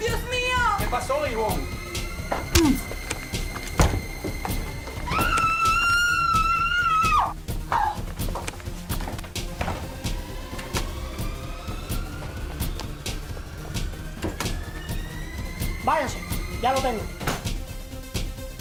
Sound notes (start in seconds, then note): 5.1 Yvonne screams wildly